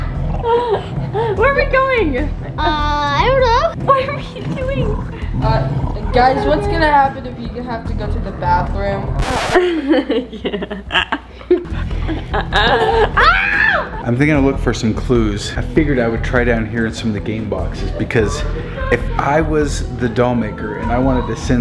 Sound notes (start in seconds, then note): 9.5 laughing; 13.2 screaming